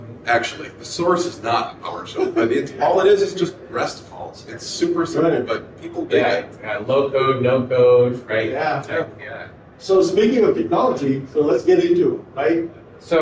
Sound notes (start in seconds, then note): 1.9 laughs